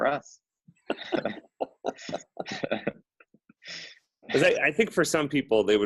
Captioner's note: all laughing